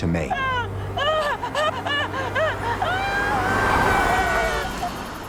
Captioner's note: frightened whimpering